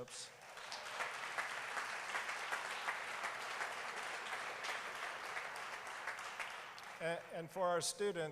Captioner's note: applause